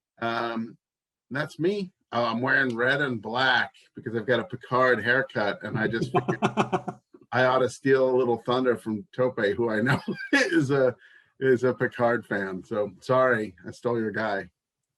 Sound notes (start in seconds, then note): 5.5 laughs